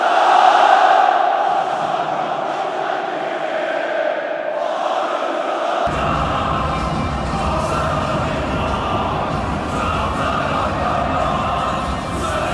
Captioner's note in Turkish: Tezahüratlar